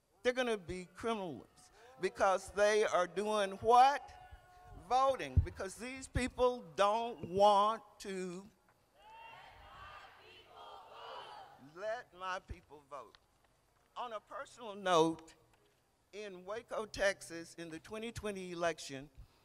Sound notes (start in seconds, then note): 8.9 crowd